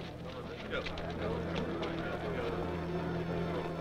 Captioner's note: men murmuring